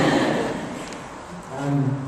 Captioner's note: laughter